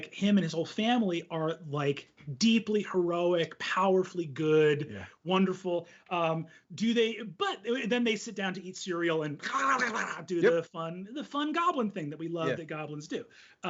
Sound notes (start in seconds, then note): 9.4 imitates goblins eating voraciously